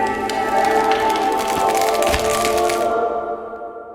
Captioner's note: ice breaking